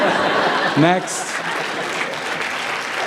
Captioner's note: laughter; applause